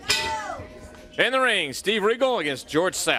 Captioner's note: bell ringing